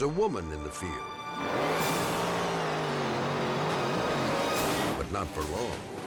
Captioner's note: dramatic music; boat engine roars